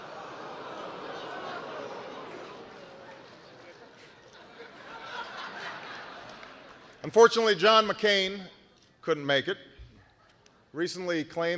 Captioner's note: laughter